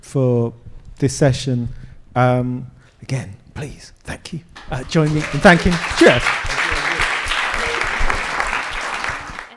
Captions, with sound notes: for this session. Again, please, thank you. Join me and thank you. Cheers. (attendees applaud)